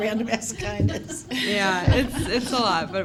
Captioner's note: laughter